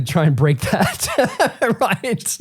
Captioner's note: laughing